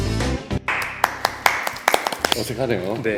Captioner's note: claping